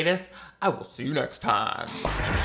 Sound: static crackling

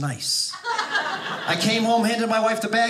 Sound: audience laughing

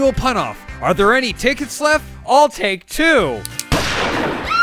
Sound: slightly more enthusiastically; gun cocks; gunshot; scream

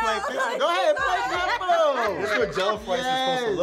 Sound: all shouting

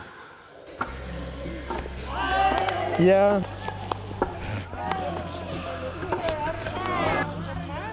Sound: kicking football, cheers and clapping

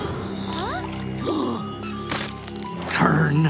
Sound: gasping; chalk breaking

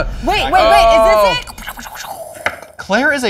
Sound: laser noises

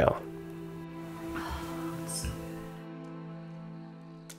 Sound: sighs

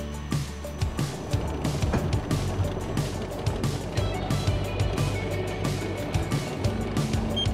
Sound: upbeat music; roller wheels spinning; upbeat music; machine beeping

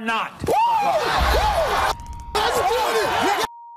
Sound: cheers

